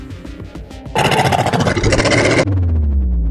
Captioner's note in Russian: рык